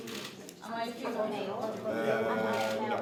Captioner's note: cameras clicking